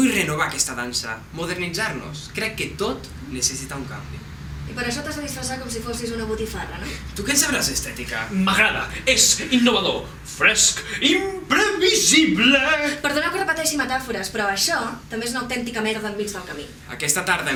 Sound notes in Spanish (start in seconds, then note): 8.8 excitado